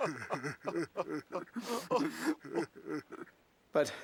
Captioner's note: sobbing